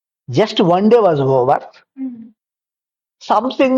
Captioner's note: none